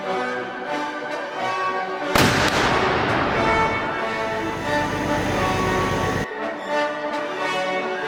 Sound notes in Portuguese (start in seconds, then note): 4.0 Som de tanque se movendo